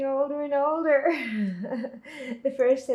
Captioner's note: laughing